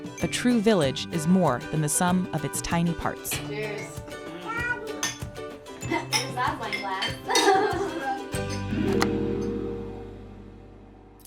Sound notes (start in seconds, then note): 5.8 glasses clinking; 7.2 laughter; 8.5 upbeat music